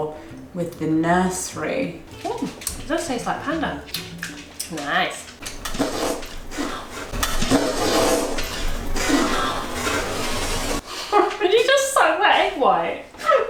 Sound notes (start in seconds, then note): 5.4 slurping; 7.3 slurping slowly; 11.0 chuckles